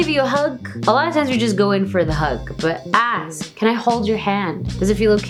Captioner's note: foreign language